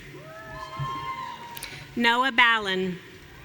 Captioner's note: audience cheering